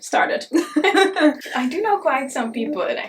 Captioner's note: both chuckle